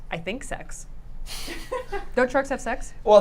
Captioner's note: laughing